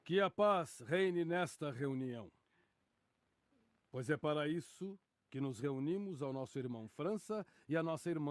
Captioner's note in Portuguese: none